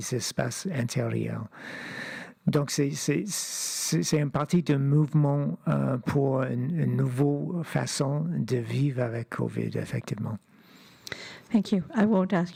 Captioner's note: speaking French